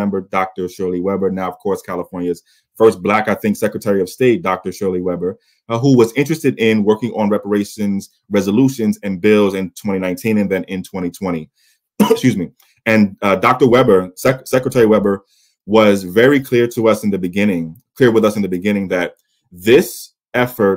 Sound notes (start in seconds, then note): 12.0 coughs